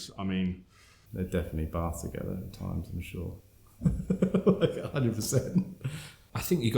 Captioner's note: laughs